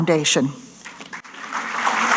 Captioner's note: applause